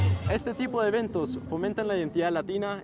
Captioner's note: speaking spanish